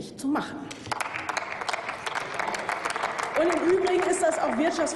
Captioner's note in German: Applaus